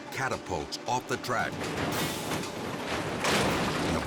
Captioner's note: car clashes